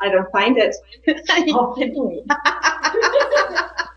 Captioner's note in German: Gelächter